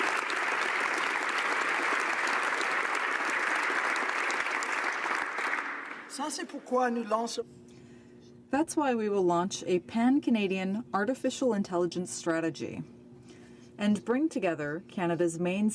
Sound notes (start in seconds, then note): 4.3 applause